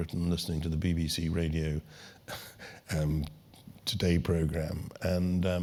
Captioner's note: laugh